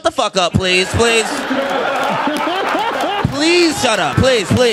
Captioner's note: audience laughing